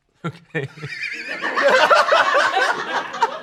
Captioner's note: laughs